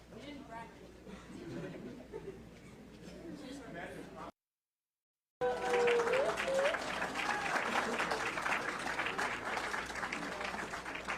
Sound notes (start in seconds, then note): 4.0 speaking faintly; 5.4 audience clapping